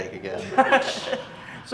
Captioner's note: laughs